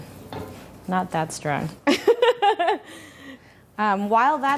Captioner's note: laughing